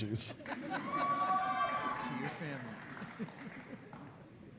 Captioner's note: cheers